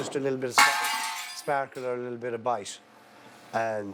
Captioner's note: glass crashes